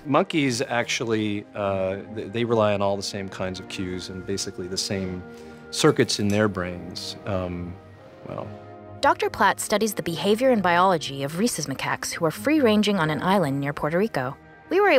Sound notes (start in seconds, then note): 9.1 voiceover